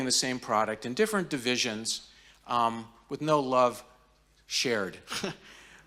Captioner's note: chuckles